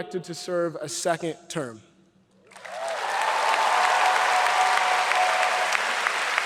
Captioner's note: audience applauds